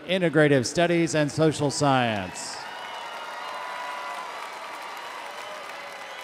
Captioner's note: audience cheering